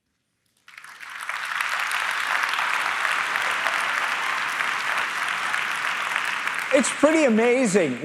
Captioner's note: applause